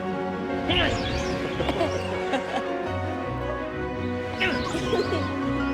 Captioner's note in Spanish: gruñidos; riendo